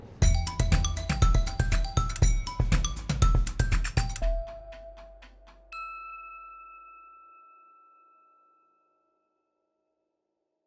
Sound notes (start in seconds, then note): 0.2 bright music; 5.7 bell dings